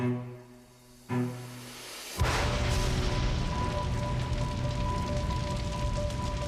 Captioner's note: dramatic music plays; fire crackles